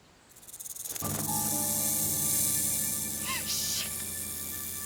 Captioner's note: snake rattling; tense music